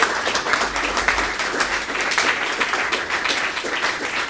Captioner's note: applause